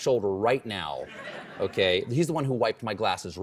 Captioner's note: laughter